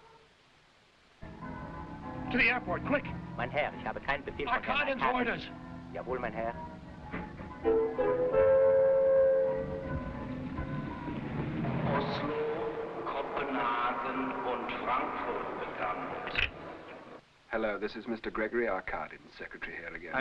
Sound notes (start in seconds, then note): 3.5 driver speaking foreign language; 6.2 driver speaking foreign language; 11.8 man on loudspeaker speaking foreign language